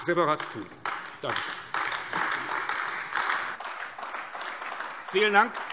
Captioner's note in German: Beifall AfD